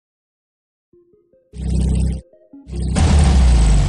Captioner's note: internal combustion engine noises